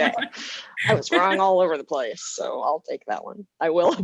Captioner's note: laughter